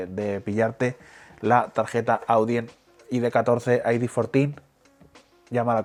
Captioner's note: spanish